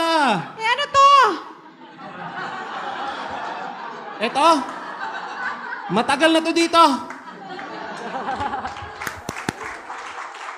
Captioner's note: laughter/Applause